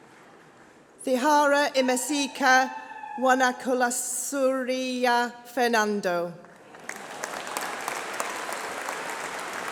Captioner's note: applause